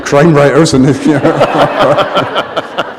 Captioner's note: laughter